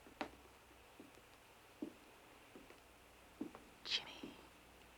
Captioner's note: footsteps